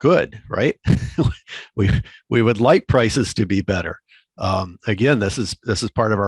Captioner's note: chuckles